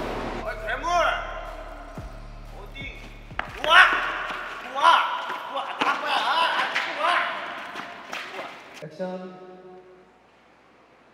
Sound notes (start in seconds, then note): 7.5 bursts out laughing